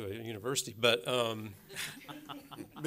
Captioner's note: laughter